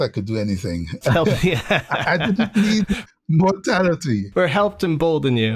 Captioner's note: laughter